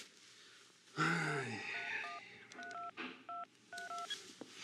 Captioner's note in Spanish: sonido al marcar